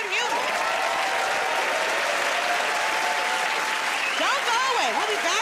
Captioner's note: cheering and applause